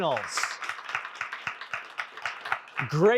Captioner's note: applause